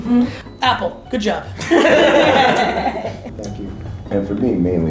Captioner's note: all laughing